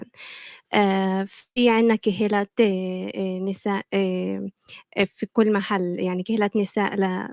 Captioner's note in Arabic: لغة أجنبية